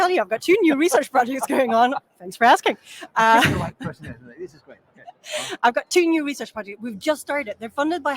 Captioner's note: laughs